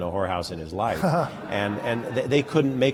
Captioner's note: laughter